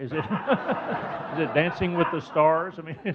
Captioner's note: audience laughing